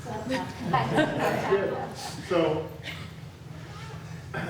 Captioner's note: audience laughs